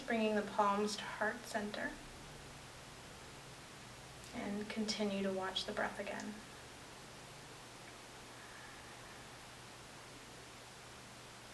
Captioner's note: breathing